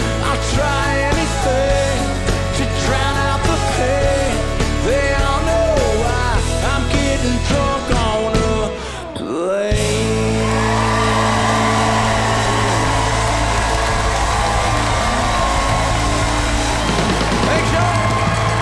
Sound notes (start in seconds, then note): 10.2 audience cheers; 14.9 audience applauds